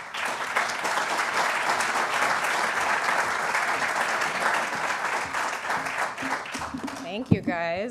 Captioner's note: applause